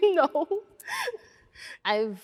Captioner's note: laughing